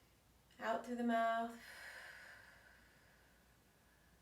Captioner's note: exhales